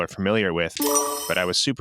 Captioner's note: slot machine